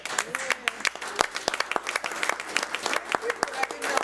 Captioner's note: applauding